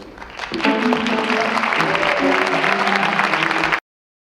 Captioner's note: audience clapping